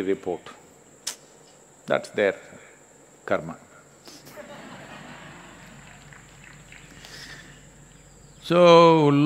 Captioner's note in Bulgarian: Смях/Ръкопляскане